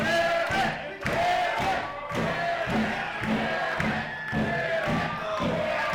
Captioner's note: crowd